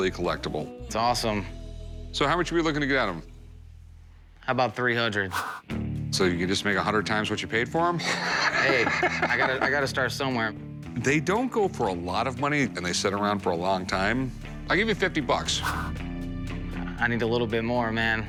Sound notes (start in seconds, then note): 8.0 laughs